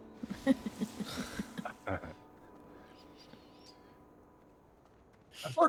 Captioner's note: laughing